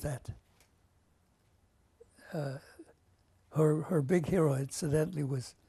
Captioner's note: pauses for 3 seconds